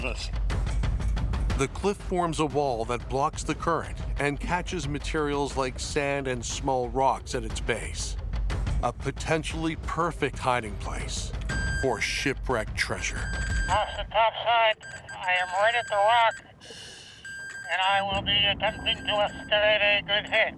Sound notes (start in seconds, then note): 13.2 metal detector beeping; 14.4 speaking over radio